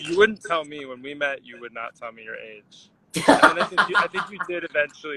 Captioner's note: laughs